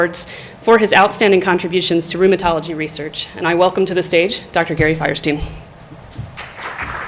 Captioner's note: applause